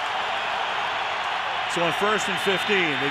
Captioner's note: cheering